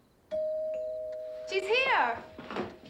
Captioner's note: doorbell rings